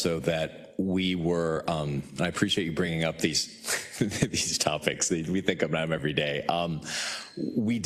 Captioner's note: laugh